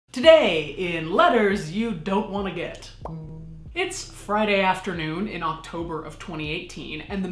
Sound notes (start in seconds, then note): 2.6 popping; 3.0 faint heart beating